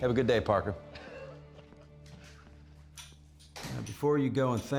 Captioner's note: chuckling